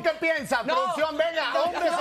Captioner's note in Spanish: risas